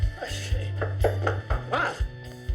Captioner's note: knocking